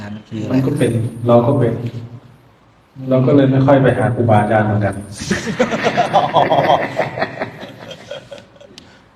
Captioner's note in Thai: เสียงหัวเราะ